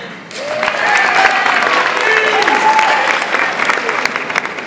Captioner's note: audience applauds